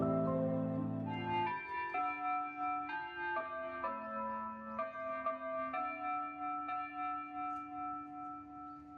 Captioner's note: bells ringing